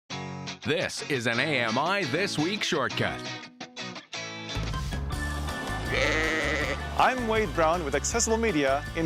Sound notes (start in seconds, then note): 0.8 voiceover; 5.8 sheep bleating